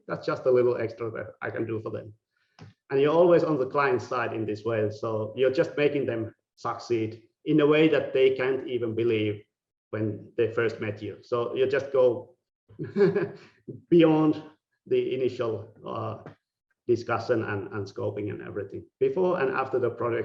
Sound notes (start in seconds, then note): 12.8 laughing